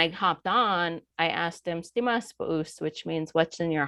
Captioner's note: speaking foreign language